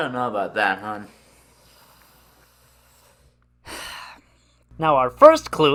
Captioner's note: sighs